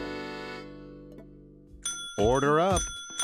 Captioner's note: sound of bell ringing